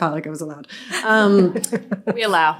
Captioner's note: all laughing